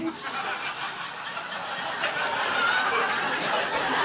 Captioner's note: audience laughing